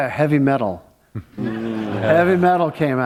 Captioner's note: laughter